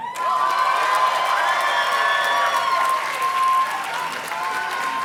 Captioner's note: audience cheers and claps